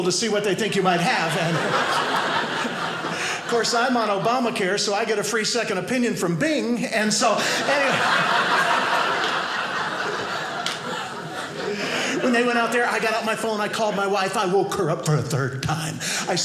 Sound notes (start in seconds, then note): 0.7 audience laughing; 7.3 audience laughing